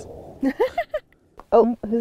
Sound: both laugh

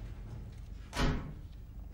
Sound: door slam

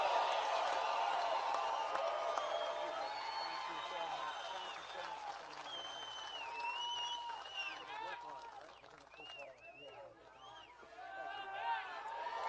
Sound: applae

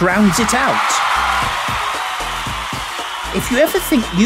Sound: crowd cheering

